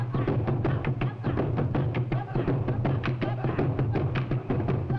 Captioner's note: men chanting; rhythmic drum music